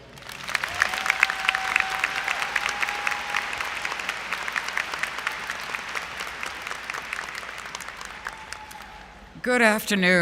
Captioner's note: applause & Cheering